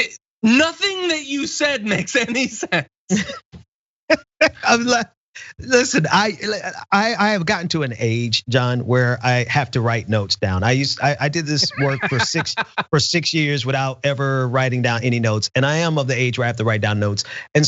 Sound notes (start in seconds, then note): 4.2 laugh